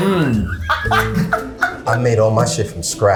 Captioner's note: laughs